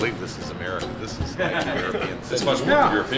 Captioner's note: laughter